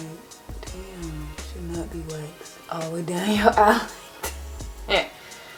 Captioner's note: laughs